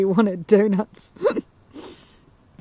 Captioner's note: giggles